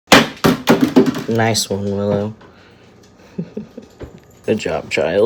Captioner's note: huge crash; chuckles